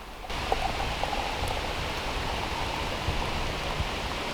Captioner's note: water pouring